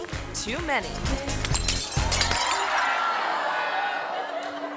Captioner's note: glass shattering; audience screaming; audience laughing